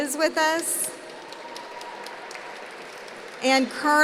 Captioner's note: applause